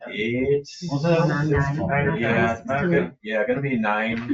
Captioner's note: members chattering